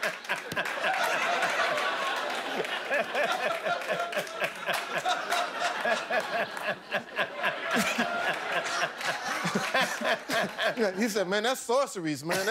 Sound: laughter

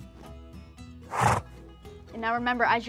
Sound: horse snorts

